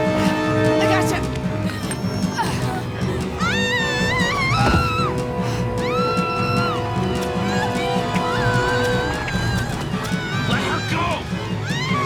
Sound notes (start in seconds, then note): 2.0 straining; 3.5 heather screaming